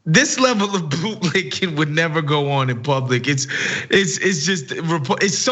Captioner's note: laugh